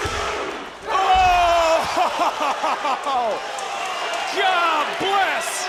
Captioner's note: crowd oohing; laughs; crowd cheering